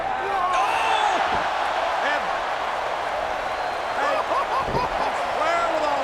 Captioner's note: laughs